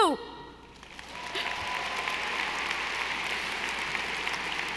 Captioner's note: audience applauding